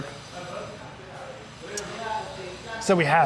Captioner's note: staff chattering faintly